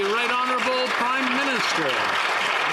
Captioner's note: some Applause